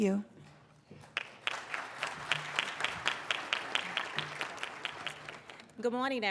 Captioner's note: applauding